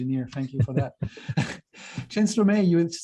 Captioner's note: laughter